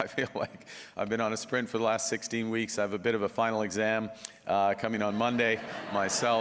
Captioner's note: laughter